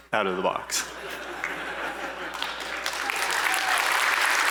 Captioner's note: applause